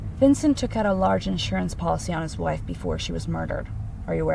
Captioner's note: none